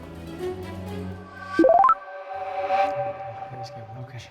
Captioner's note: beeping